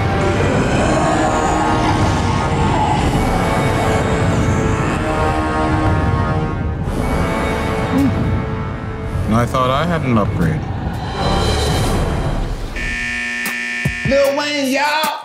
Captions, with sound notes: (creature breathing deeply) - And I thought I had an upgrade. (alarm buzzing) - Lil Wayne y'all.